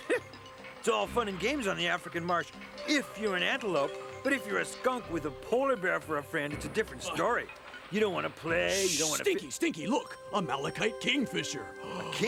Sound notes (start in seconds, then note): 8.7 shushes